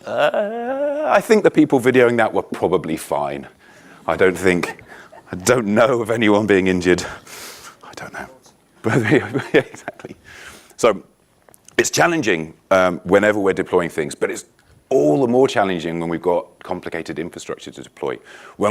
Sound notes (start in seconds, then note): 4.3 audience laughing